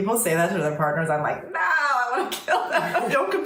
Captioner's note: laughing